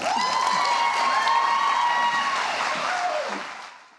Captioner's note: audience cheering